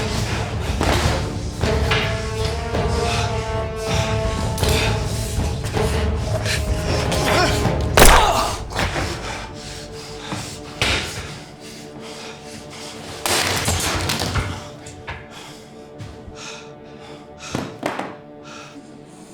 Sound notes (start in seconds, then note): 0.2 suspenseful music; 8.0 gunshot booming; 13.4 Koch clanking; 16.4 Brown huffing